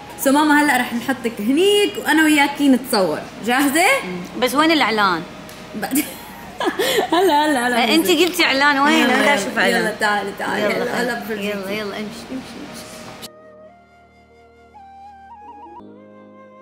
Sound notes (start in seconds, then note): 5.9 laughing; 13.2 romantic music playing